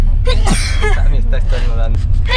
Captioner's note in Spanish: estornudo